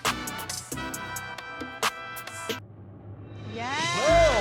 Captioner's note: cheering